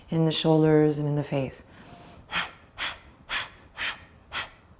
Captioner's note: sharp exhales repeatedly